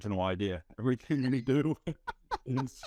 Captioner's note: laughing